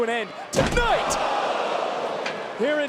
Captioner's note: crowd oohing